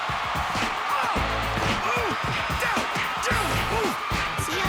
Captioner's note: Duckman groaning and grunting